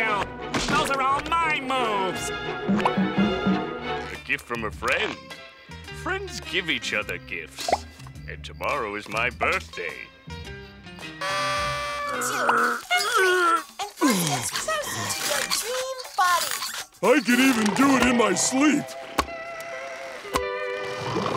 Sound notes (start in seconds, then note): 11.2 blowing party horn; 12.0 grunting; 18.7 clapping